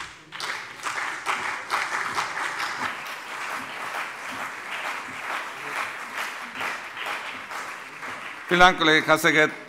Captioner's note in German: Beifall CDU und BÜNDNIS 90/DIE GRÜNEN